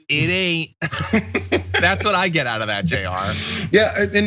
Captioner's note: laugh